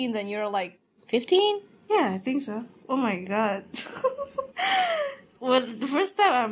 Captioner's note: giggles